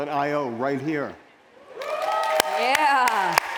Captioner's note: applause